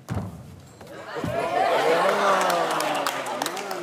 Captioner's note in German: Jubel, Applaus